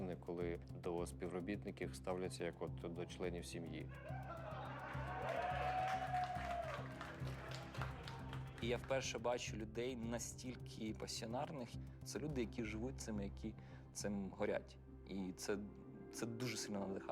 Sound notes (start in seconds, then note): 4.0 team laughing and cheering